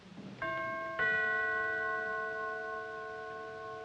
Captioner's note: doorbell ringing